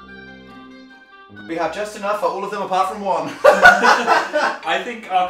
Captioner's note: laugh